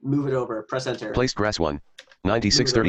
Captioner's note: computer Voice